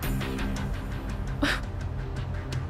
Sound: exhales

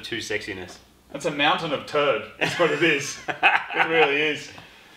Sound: laughs

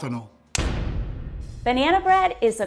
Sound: dramatic crash

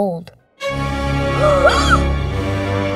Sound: gasping

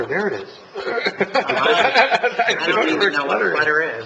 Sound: laughter

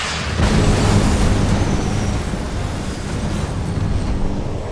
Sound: rocket explodes

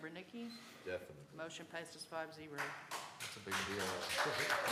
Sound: applause

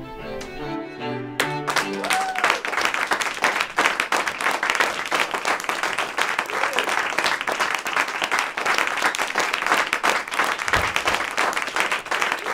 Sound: applause

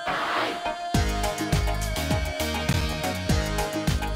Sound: continues vocalizing

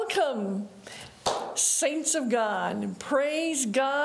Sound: hands clapping

